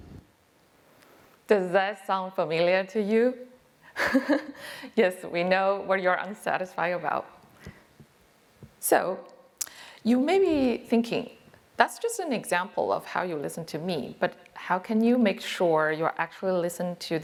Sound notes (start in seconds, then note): 3.9 chuckles